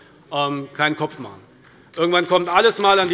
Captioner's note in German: Beifall bei der CDU